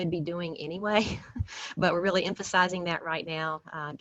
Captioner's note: laughter